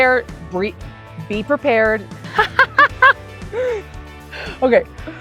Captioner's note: chuckles